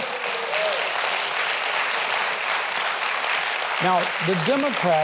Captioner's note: audience applauding